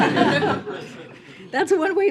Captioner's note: laughter